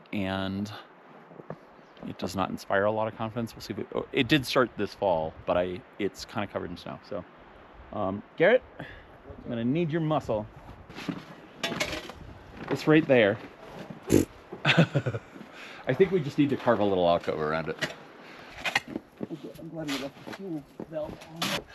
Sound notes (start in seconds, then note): 14.6 laughs